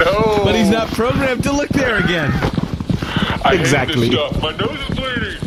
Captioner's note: shouting